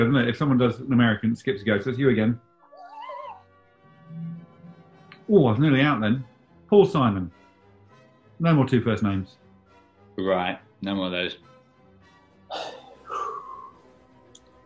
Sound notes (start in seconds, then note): 2.6 sniggering; 12.5 sighing